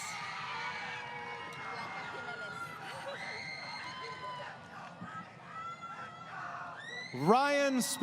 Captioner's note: crowd Cheering